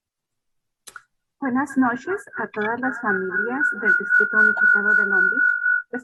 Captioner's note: speaking in foreign language